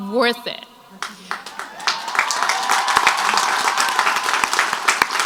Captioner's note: crowd applauds